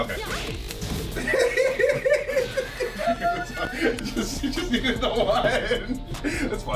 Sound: laugh

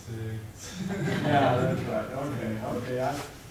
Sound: audience laughing

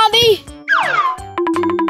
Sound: slide whistle

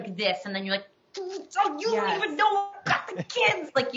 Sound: speaks gibberish

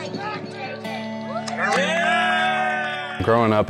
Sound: cheering

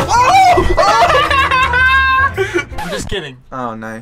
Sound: laughter

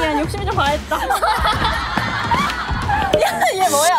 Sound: is laughing so hard

